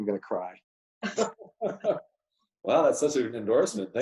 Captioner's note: laughs